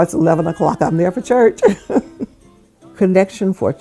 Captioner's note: laughs